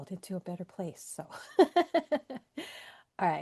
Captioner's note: laughs